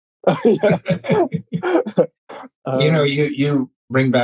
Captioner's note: laughing